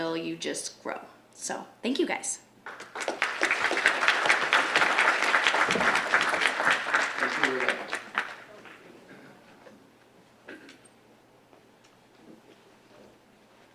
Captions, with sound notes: "You just grow." So, thank you guys. (audience applauds)